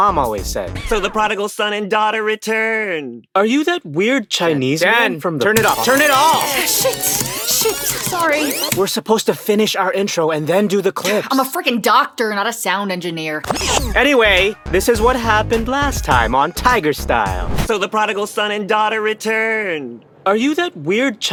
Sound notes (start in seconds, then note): 5.4 sound of a tape deck squealing in rewind